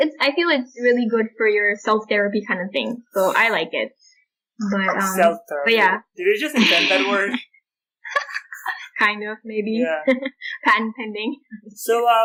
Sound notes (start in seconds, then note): 8.0 laughter